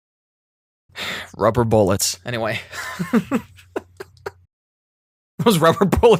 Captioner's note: laughter